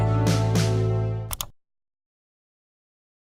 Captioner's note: click off